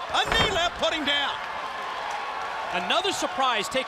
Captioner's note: crowd cheering